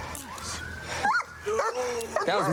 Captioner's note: dog barks